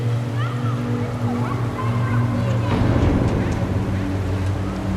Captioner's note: indistinct children talking